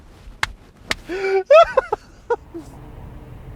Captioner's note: laughs